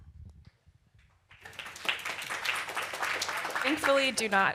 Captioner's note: applause